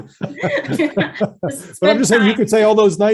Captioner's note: laughs